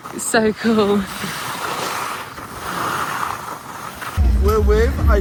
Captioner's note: skis scrape